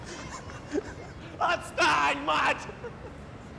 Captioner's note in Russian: кричит